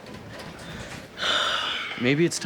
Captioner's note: sighs heavily